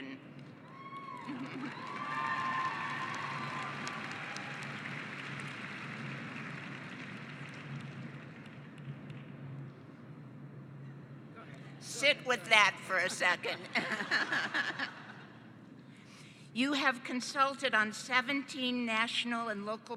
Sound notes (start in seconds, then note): 0.6 cheering and applause; 13.5 laughing